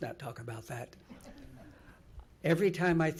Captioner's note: laughing